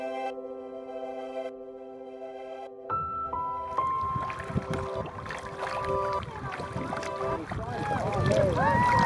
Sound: cheering

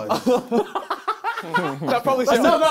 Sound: both laughing

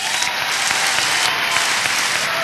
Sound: applause

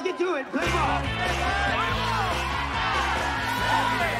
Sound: all Shouting

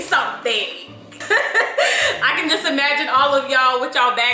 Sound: laughs

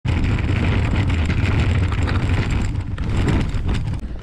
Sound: wheels scraping

